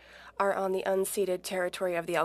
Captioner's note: speaking French